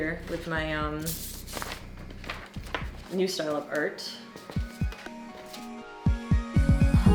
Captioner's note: paper riffling